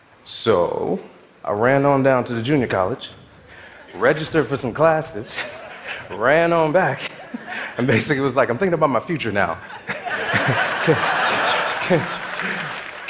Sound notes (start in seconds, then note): 9.6 audience laughing; 12.0 audience clapping